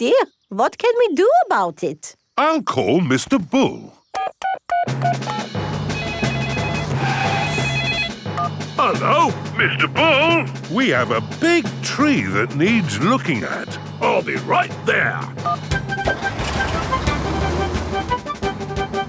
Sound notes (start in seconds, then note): 5.8 phone ringing; 5.8 beeping